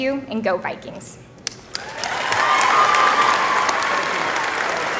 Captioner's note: applause